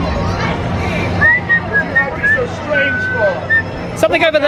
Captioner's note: whistling